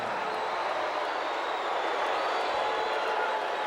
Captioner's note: crowd cheering